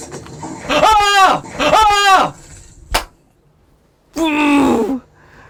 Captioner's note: euargh!